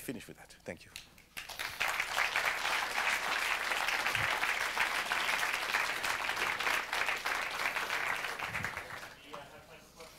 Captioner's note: applause